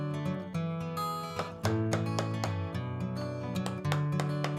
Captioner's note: tapping